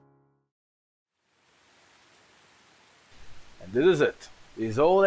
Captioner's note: gentle rain in the background